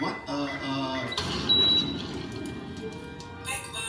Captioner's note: oven blasts, beeps, and crackles